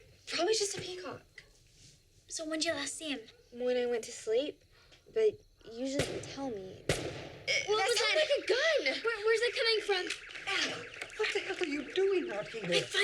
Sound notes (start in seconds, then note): 6.8 gun bangs; 9.2 alarm blaring